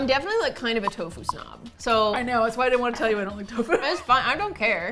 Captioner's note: laughs